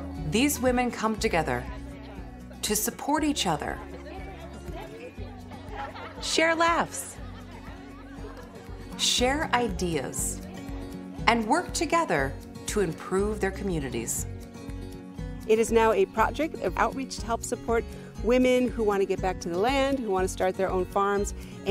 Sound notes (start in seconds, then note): 4.6 women chatting; 7.4 women laughing